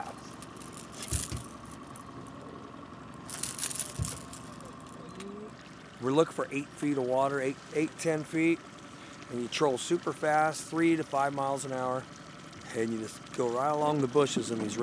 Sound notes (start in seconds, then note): 3.2 lure rattling